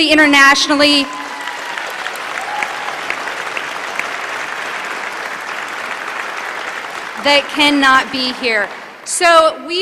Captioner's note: applause